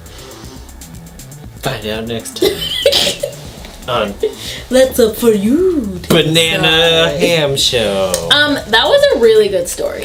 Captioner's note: giggles